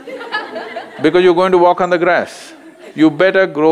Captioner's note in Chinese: 笑聲; 笑聲